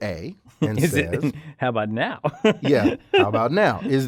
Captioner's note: laugh